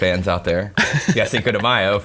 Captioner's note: laughing